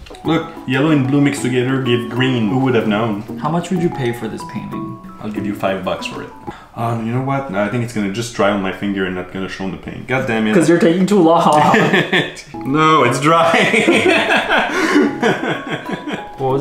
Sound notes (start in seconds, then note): 11.4 giggling; 13.4 laughing